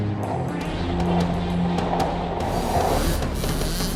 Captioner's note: skateboard rolling; motorcycle revving